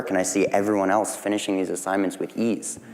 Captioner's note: none